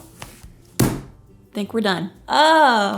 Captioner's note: table banging